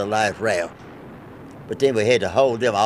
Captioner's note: wind whooshes